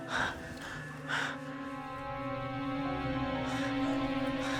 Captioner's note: Claire breathing heavily; suspenseful music